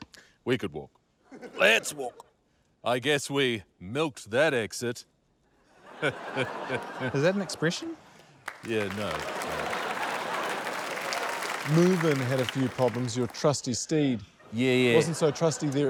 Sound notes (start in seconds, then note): 5.9 chuckles; 10.9 cheers, applause